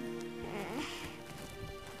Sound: Anne grunts

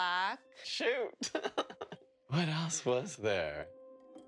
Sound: laughing

